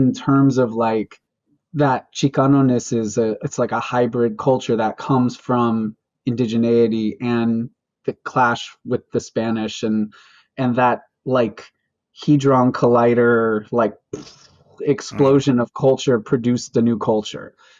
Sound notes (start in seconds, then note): 15.0 mimics explosion